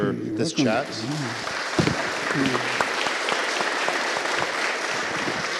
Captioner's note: applause